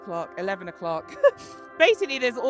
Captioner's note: laughter